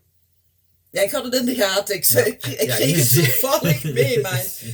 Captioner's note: laughter